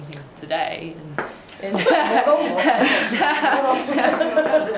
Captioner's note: laughing